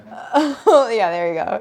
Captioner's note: Claire laughs